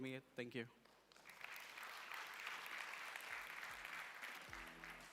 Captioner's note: applause